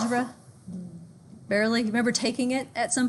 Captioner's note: murmurs